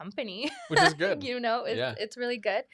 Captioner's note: laughs